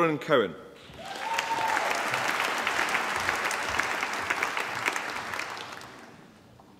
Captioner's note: applause